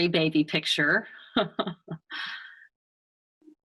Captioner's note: chuckles